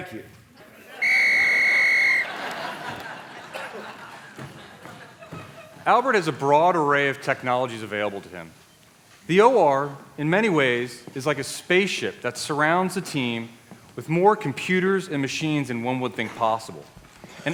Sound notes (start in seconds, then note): 1.0 whistle; 2.1 laughter